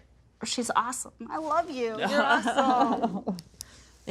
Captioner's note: laughing